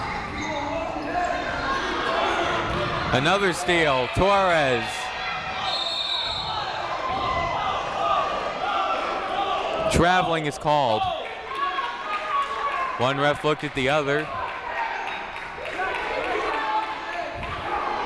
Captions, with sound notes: Another steal, Torres. (whistle) Traveling is called. One ref looked at the other.